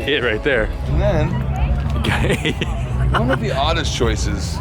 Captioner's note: laughing